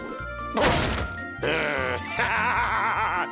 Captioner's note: crash